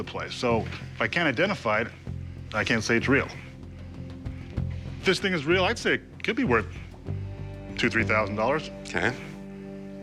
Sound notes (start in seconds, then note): none